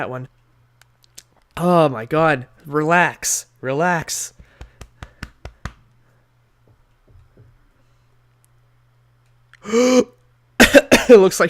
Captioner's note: gasps